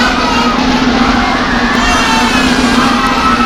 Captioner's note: also a baby is crying for some reason